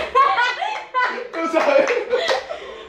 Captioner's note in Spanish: Risas